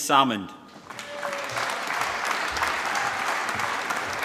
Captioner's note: applause